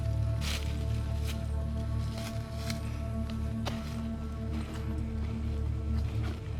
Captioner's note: ominous music; leaves rustling